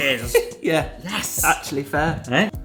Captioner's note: laughs